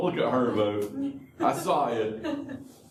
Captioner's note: laughter